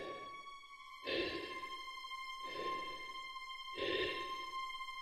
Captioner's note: Chemock breathes heavily